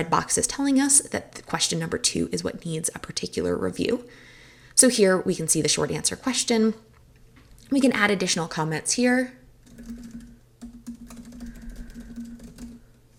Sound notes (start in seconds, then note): 10.6 typing